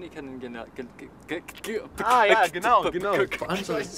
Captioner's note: laughing